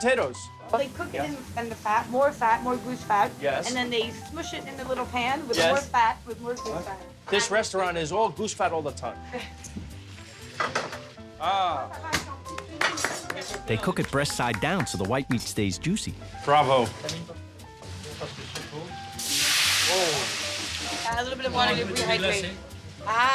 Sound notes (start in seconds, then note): 12.5 applauds; 18.9 sizzling